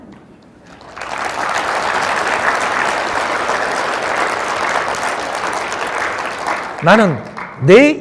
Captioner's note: audience applaudes